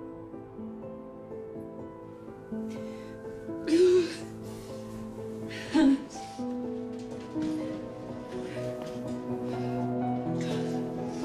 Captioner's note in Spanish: Sollozos